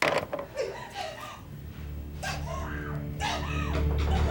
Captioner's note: woman crying